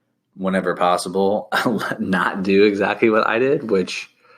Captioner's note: chuckles